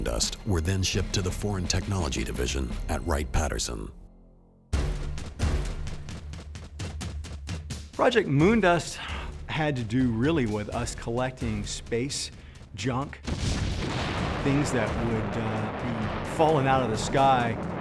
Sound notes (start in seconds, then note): 13.2 rocket ship launching